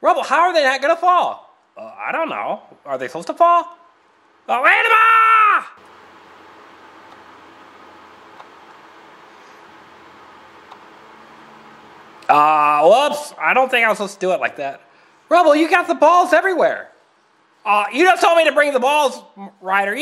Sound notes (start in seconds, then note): 4.5 Rubble yells